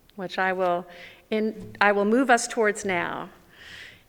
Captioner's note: none